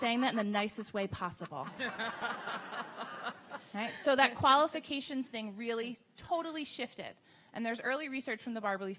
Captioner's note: audience laughing